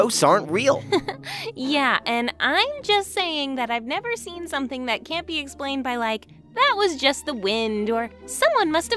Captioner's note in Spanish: ríe